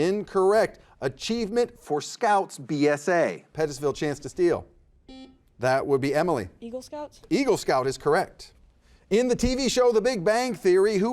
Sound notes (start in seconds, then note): 5.1 buzzer buzzes